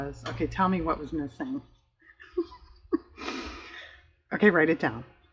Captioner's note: laughs